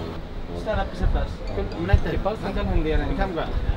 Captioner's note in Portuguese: Falas em árabe